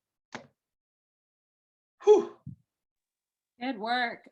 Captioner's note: gasps